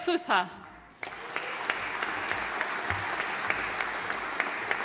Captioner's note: audience applauding